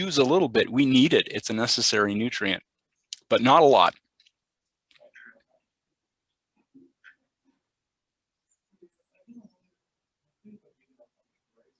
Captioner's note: pause